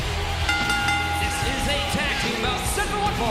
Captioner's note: bell rings